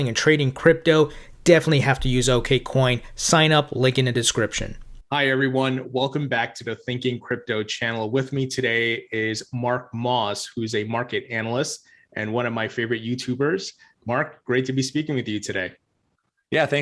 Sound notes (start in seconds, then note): none